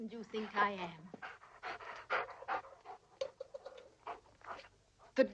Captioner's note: dogs panting